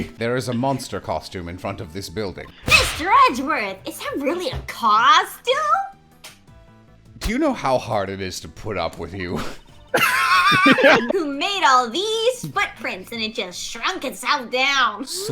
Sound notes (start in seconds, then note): 9.9 wheezing